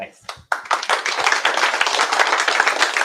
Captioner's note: applause